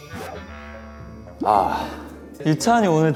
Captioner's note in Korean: 한숨